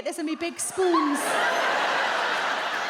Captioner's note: audience laughs